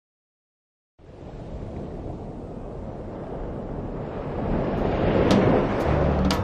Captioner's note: ocean waves crashing onto shore